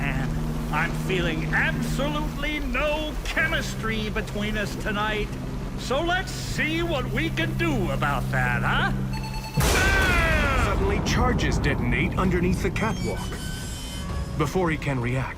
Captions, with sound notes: I'm feeling absolutely no chemistry between us tonight, so let's see what we can do about that, huh? [countdown beeping, explosion] - Ah! - Suddenly, charges detonate underneath the catwalk. [catwalk metal creaks] Before he can react,